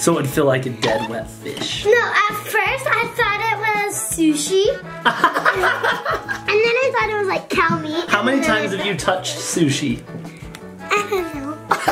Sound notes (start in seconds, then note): 5.0 laughs